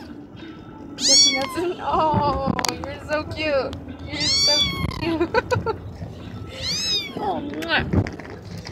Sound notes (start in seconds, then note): 0.9 meow; 4.1 meow; 5.0 laughter; 6.5 meow